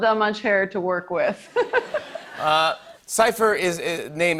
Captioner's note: laughs